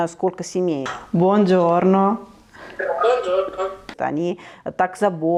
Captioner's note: speaks Italian